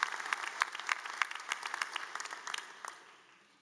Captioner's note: applause